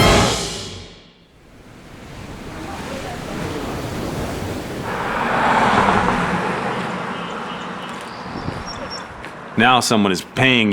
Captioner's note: sounds of water, road noise and birds chirping